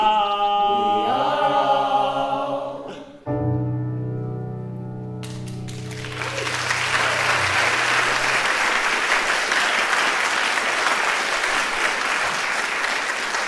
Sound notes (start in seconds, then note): 3.2 piano music; 5.2 audience clapping